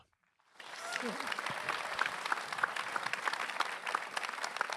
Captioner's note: applause